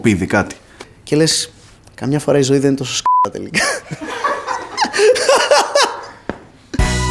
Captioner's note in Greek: γέλια